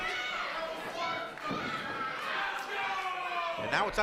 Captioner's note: crowd shouting